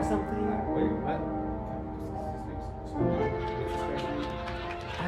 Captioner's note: whispers to accompanist